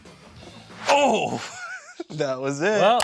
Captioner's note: laughing